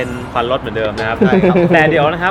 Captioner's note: laughs